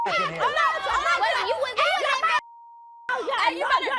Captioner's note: yelling